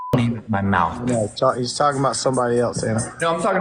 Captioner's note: beep